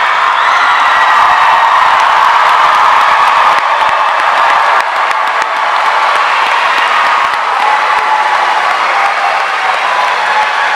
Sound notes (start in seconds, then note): 4.9 audience applauding